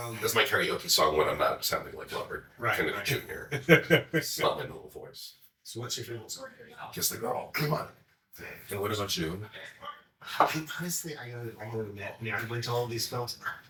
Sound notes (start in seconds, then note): 3.1 chuckling; 11.0 cup thuds